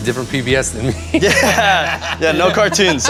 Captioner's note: both laugh